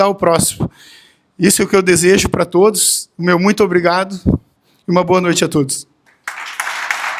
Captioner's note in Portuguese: aplausos